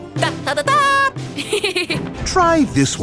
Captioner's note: giggling